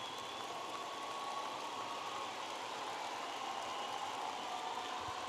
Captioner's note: audience applauding and cheering